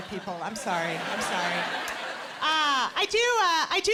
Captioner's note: laughter